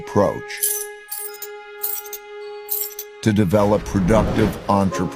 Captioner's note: رنين سجلات النقد